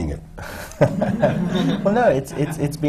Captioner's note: laughter